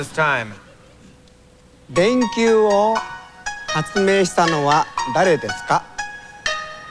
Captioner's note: speaking japanese